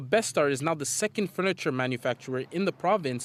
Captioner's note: speaking French